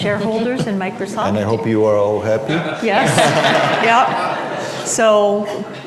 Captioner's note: laughter